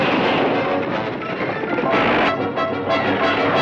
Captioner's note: gun fires